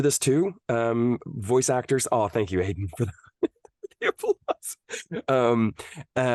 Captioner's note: laughs